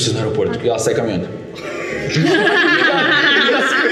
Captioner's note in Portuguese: Risadas